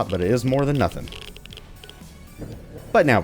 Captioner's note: Geiger Counter stops